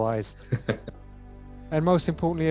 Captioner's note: chuckles